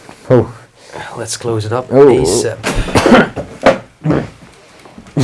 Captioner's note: coughing